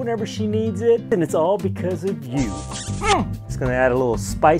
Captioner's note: kissing